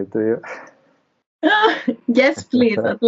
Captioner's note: both laughs